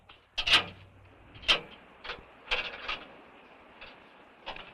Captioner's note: chain clanking